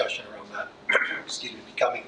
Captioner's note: clears throat